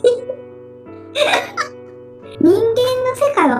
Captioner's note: laughs